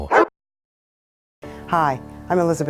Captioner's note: dog barking